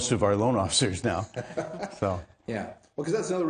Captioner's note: laughs